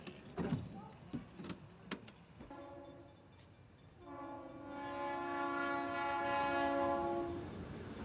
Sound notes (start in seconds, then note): 4.0 train horn blares